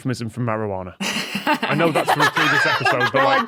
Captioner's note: guests laughing